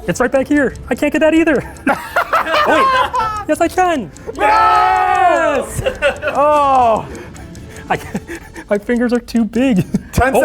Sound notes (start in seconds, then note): 1.8 laughing; 4.3 cheering